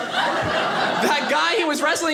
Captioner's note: audience laughing